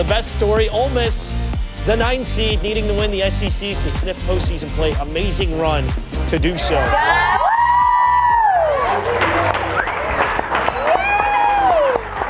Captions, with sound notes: The best story, Ole Miss, the ninth seed, needing to win the SECs to snip postseason play. Amazing run to do so. [crowd cheering, clapping]